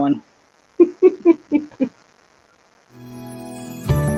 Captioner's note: laughing; upbeat music